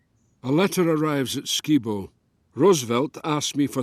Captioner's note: Voz en off